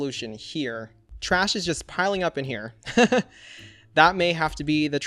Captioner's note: laughs